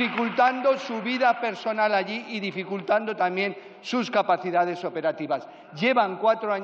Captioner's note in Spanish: Aplausos